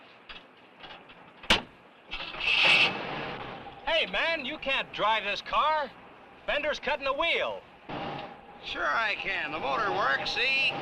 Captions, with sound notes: (engine cranks) - Hey, man, you can't drive this car! Fender's cutting the wheel! - Sure I can the motor works, see?